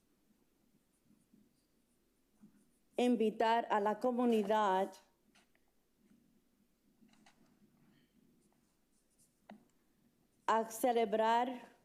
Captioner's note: speaking in spanish